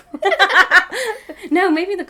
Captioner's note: both laughing